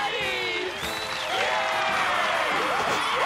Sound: cheering

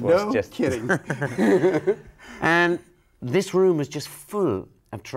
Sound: laughs

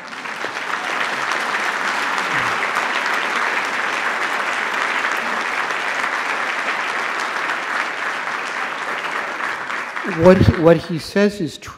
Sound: applause

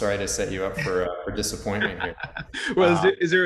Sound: laughing

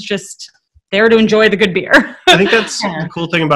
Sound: laughing

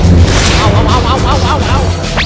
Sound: Luigi gibberish

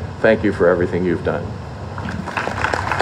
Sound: applause

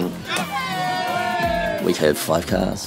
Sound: crowd

